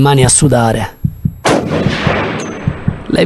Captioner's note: gunshot